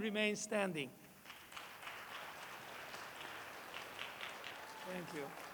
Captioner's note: applause